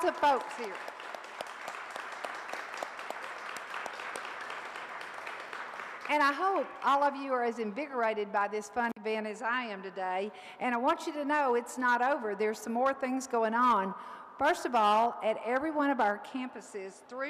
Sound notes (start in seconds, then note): 0.0 audience applauds